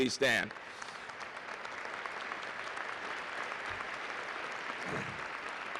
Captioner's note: applause